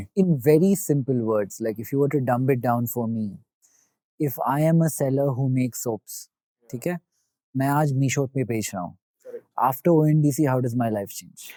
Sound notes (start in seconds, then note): 7.3 speaking in Hindi